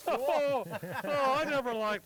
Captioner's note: laughing